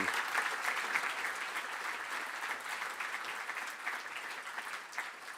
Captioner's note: audience applauding